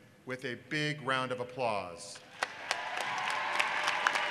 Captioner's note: applause